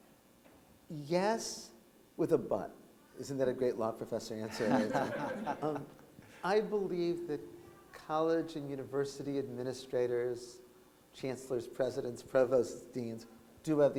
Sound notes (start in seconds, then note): 4.5 laughter